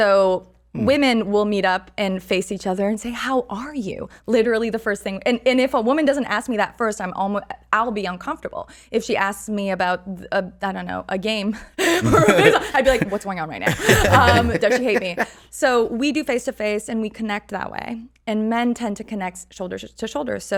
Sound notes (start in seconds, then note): 11.7 laughs